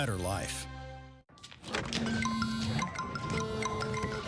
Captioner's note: phone buzzing; SFX: Ding Ding Ding; SFX: Bing Bing Bing